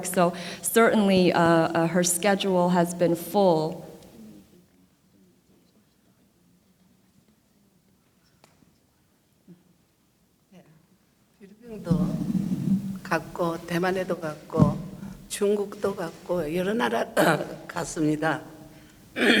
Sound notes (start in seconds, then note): 12.2 speaking foreign language